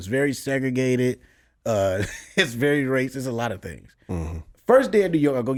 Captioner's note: laughs